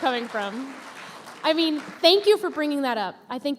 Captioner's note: applause